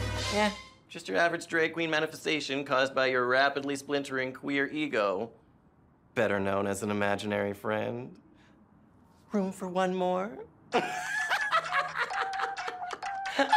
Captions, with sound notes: Eh, just your average drag queen manifestation caused by your rapidly splintering queer ego, better known as an imaginary friend. Room for one more? (maniacally laughs)